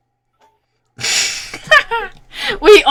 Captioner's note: laughs